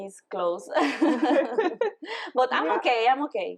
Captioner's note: laughing